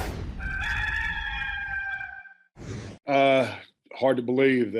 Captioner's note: rooster crowing